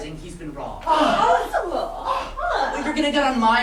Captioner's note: sailors react indignantly